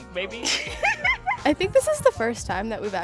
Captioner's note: girls laughing